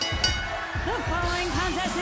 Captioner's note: bell